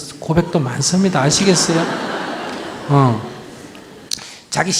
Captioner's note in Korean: 청중 웃음